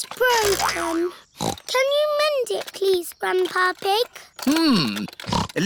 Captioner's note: snorts